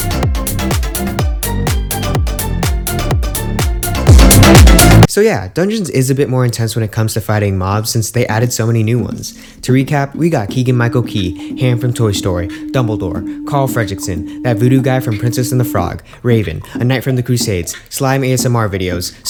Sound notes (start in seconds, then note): 8.9 beatboxing commences